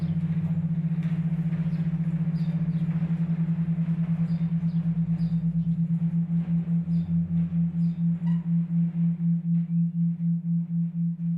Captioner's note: underlying drone of traffic